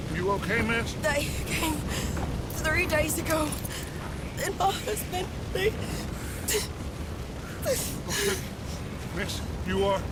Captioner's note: weeping; continues sobbing